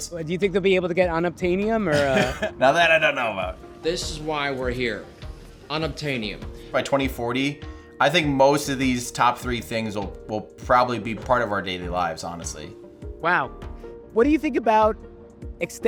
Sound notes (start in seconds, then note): 1.9 laughs